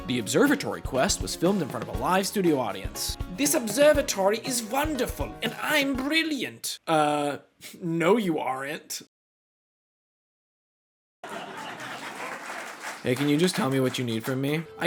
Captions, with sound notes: (Sitcom Music) The Observatory Quest was filmed in front of a live studio audience. This observatory is wonderful and I'm brilliant. Uhh no, you aren't. (Laughtrack) (Audience still laughing for some reason) Hey, can you just tell me what you need from me?